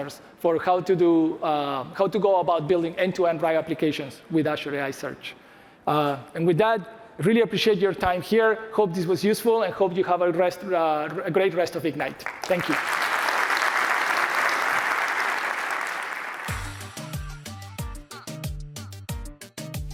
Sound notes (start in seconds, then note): 12.1 applause